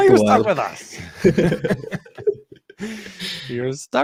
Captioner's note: chuckling